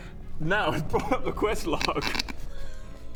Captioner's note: giggles